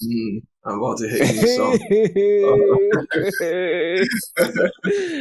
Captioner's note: laughs